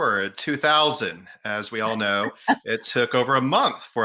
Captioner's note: laughing